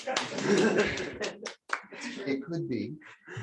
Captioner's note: applause